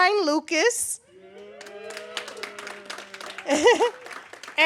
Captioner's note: ironic cheers; applause; chuckles